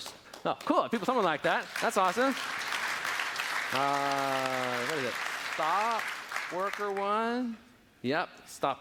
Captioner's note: applause